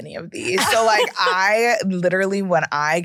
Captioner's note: laughs